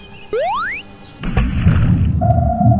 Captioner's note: splat; underwater sounds